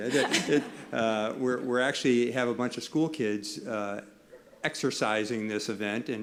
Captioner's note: laughter